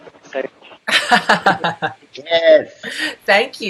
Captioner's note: laughs